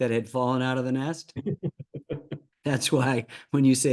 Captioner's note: Ken Rosenthal laughing